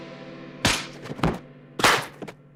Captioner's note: loud thwacks